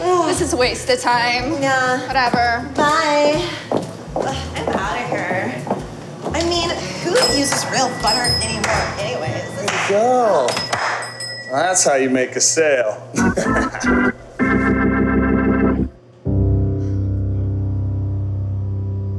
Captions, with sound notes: - This is a waste of time, whatever - Bye, ugh I'm outta here I mean, who uses real butter anyways? - Way to go, now that's how you make a sale. (laughs) (sad music)